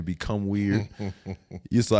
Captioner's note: Eric laughs